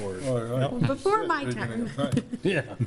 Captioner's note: laughing